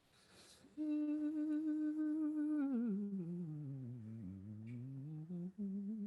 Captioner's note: beatboxing